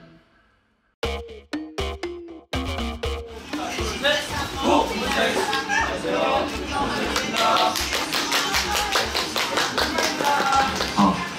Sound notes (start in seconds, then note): 7.0 everyone starts clapping with joy